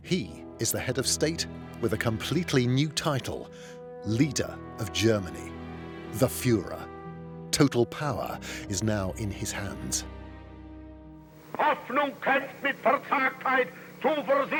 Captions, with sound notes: he is the head of state, with a completely new title: Leader of Germany, the "Führer." Total power is now in his hands. [speaking German]